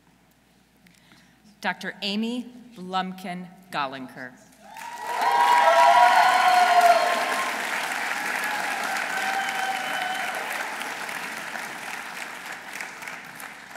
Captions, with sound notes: Dr. Amy Blumkin Golinker. -(audience cheering) -(audience applauding)